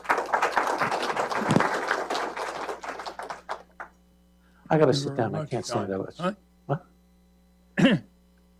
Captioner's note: applause